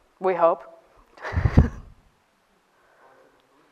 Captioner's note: chuckle